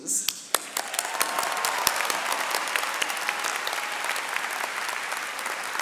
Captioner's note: audience cheering and clapping